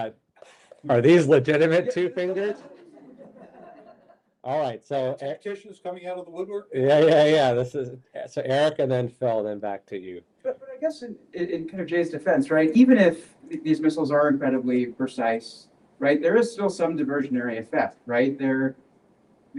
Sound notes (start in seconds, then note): 1.8 chuckles